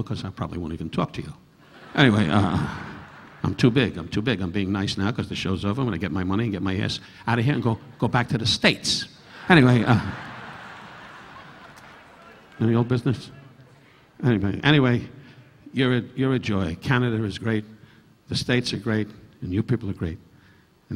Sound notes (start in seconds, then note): 1.6 audience laughing; 9.2 audience laughing